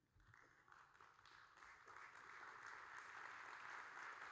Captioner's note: audience applauding